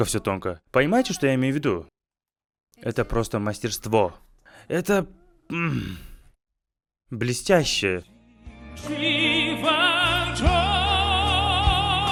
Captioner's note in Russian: откашливается